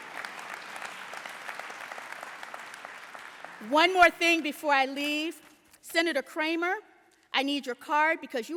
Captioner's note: applause